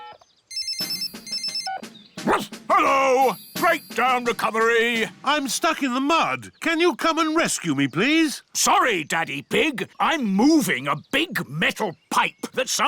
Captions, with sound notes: (PHONE RINGS) (BARKS) Hello. Breakdown recovery. I'm stuck in the mud. Can you come and rescue me, please? Sorry, Daddy Pig, I'm moving a big metal pipe